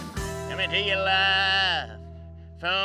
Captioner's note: imitates rodeo announcer